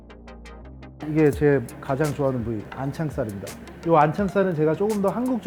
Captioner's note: speaking foreign language